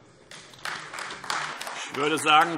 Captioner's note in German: Beifall AfD